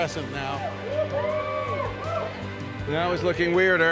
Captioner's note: people cheering